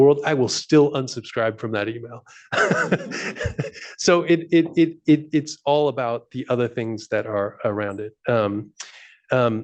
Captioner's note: laughs